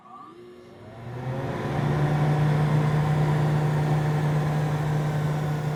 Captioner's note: air vent blowing